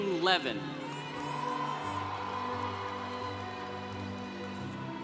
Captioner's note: congregation cheering